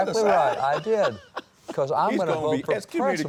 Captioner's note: laughs